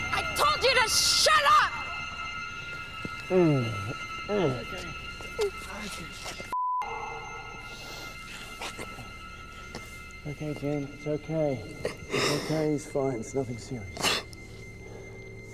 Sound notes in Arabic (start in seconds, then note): 3.3 يشتكي; 11.7 تنهدات جين